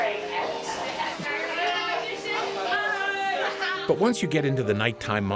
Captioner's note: laughter, indistinct conversations